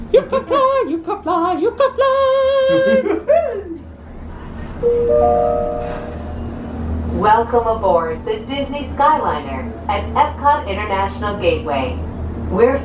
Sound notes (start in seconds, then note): 3.1 jubilating; 4.8 machine beeps